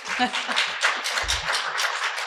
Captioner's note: applause